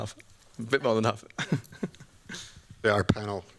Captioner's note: giggles